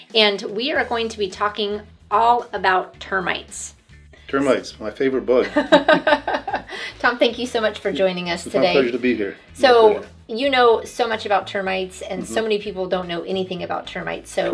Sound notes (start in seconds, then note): 5.4 laughing